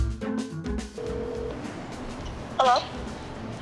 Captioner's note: phone ringing